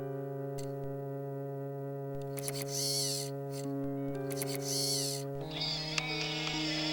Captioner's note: animatronic whirs; somber monotone music